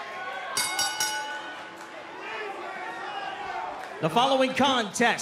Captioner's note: cheers & boos; bell